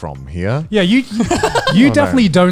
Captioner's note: laughing